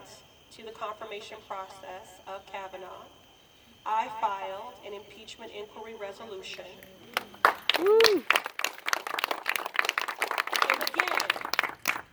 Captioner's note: applause